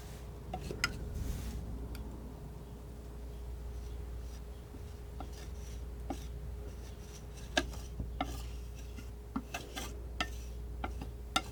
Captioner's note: tapping